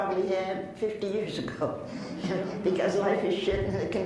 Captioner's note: laughs